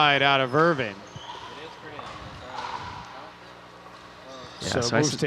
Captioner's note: people chattering